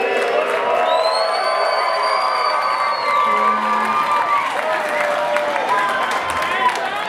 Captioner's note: audience applauds; audience cheers